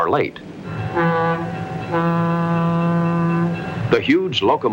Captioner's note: train horn blasts